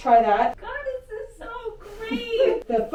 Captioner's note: laughing